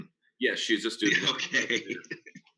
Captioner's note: acks